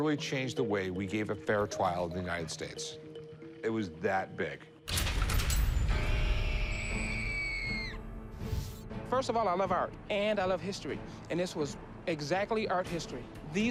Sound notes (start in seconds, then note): 4.8 dramatic music; 6.6 woman screaming